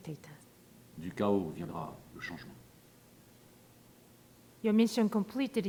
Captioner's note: man speaking in foreign language